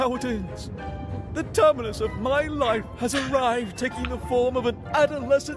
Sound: laughs softly

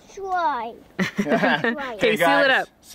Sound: laughs

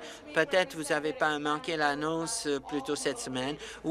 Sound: applause

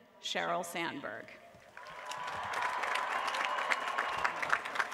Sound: applause

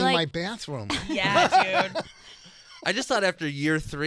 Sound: laughing

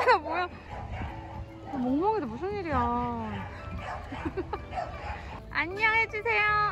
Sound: laughs

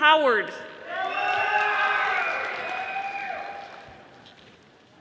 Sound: audience applauding

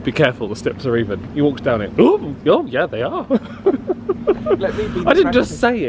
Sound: chuckles

